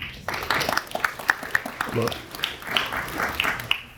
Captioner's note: audience applauds